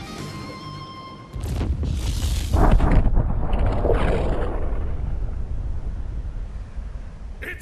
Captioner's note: explosion